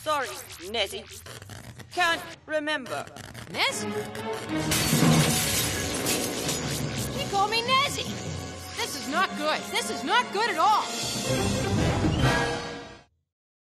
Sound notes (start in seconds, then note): 4.8 screen explodes